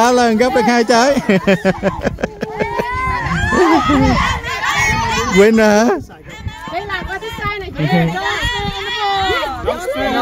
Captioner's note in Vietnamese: Tiếng cười